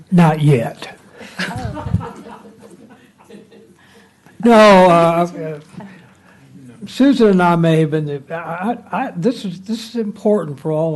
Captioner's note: laughter